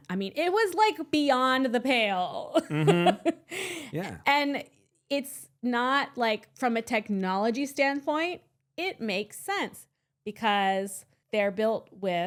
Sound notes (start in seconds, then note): 2.6 laughing